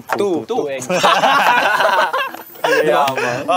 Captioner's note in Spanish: campistas riendo